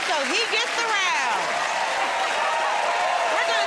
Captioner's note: cheers and applause